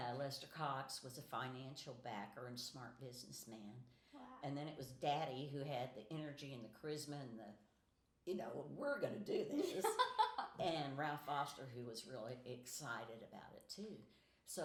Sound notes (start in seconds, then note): 9.6 laughing